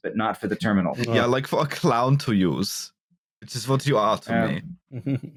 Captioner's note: German accent